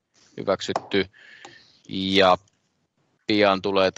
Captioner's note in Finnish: nuijan kopautus